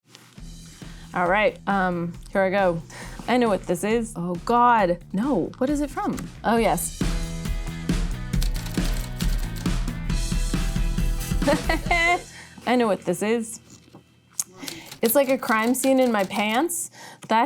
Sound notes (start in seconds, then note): 7.5 upbeat music; 8.4 typewriter keys clicking; 11.4 laughing